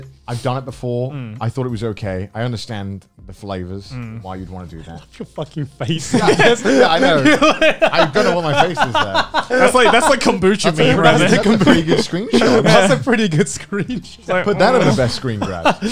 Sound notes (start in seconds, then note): 6.9 laughing